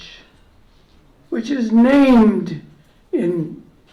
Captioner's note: none